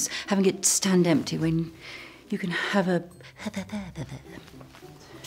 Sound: silly noises

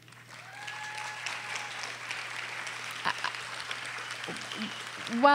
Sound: audience applauding

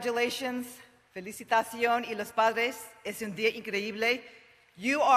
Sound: Spanish spoken

